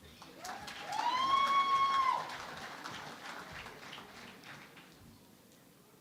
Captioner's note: cheering and Applause